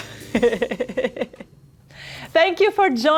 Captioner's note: laughter